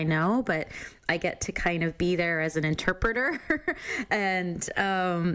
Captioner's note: chuckles